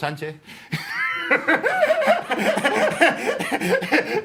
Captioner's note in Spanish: Risas